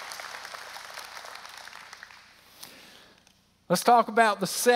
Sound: applause

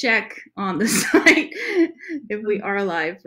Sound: laughs

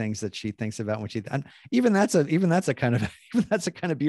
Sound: laughing

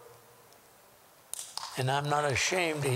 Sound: applause

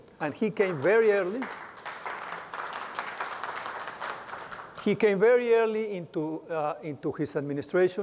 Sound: applause

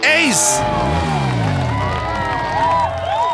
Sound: crowd cheers

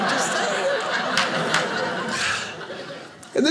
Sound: audience laughing

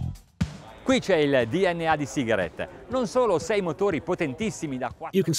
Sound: speaking Italian

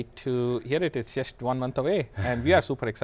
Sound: laughs

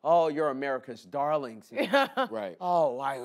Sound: laughs

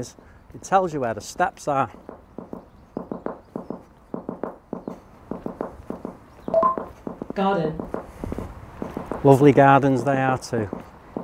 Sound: steps

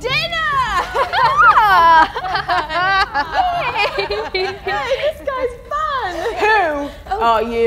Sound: laughter

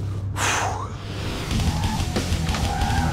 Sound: tires screeching

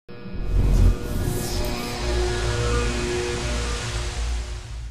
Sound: buzzing sound

